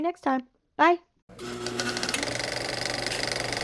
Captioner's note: film projector whirring